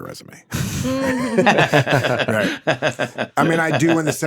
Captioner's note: Paul laughs